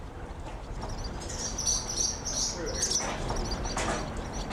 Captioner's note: birds chirping